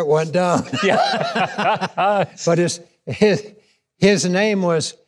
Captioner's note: laughing